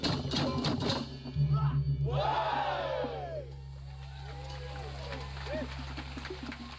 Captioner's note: drumming; crowd cheering; crowd applauding